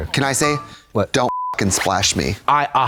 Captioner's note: beep